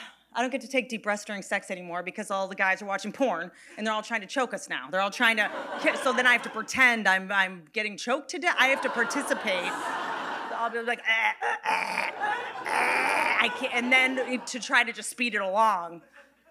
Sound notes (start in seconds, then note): 12.6 Whitney mimicking choking